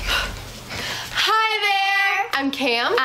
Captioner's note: girls In Unison